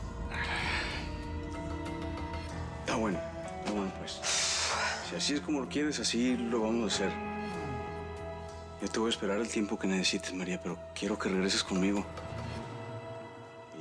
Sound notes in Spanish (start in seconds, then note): 4.1 ella resopla